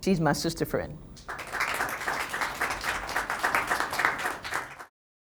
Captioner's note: applause